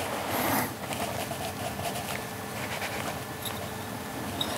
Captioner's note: quiet scratching